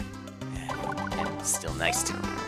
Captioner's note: sigh